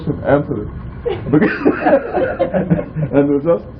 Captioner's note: laughter